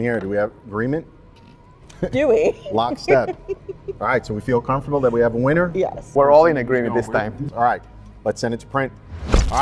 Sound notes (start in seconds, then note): 1.9 laughs